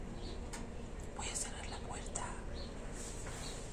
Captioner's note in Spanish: susurra